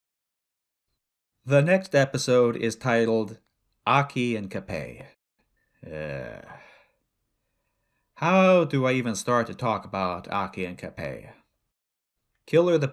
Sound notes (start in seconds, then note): 5.8 sigh